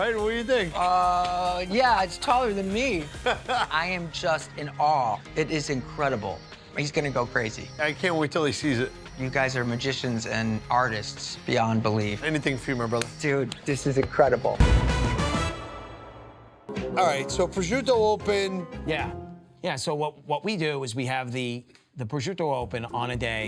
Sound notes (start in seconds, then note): 3.1 Buddy laughing; 12.8 Buddy and David hands tapping; 14.4 hands tapping